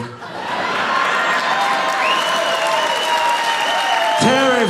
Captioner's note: audience cheering